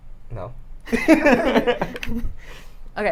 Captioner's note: laughter